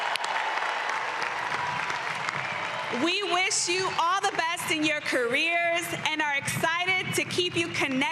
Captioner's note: applause